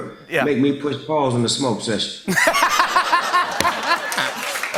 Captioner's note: laughter